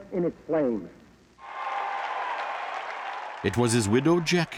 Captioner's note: crowd cheering